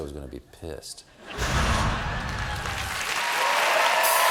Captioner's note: laughter; applause